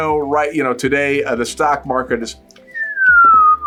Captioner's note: whistles